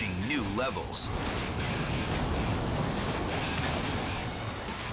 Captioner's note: rapids thundering